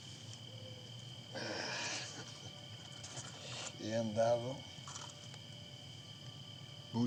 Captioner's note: sighs; speaking spanish